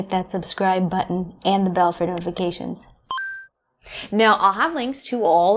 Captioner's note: digital bell dings